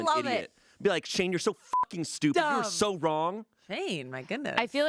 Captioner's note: beep